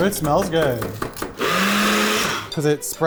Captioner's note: blender running